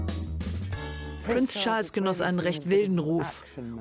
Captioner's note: voiceover